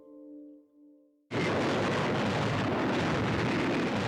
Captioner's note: guns firing